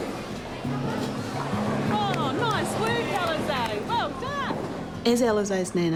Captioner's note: pins clatter